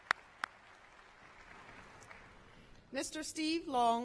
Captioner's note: applause